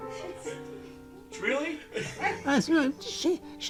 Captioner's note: people laughing